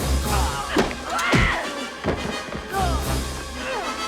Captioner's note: yells